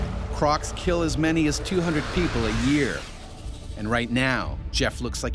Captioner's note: voiceover